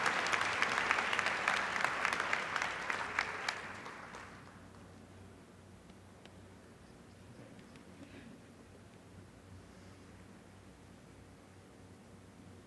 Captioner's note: applause